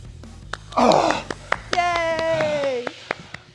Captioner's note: Sol claps